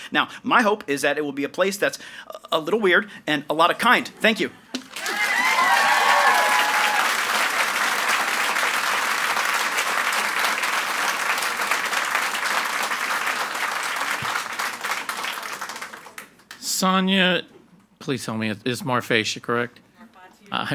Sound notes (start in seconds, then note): 5.4 audience applauds and cheers